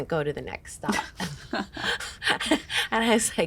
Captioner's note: all chuckle